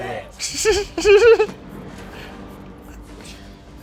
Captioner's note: laughs